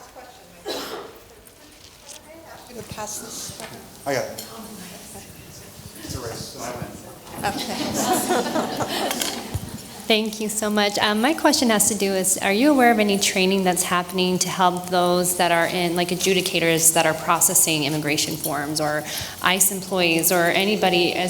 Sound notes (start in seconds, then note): 9.0 laugh